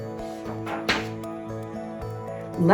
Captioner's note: uplifting instrumental music; page shuffles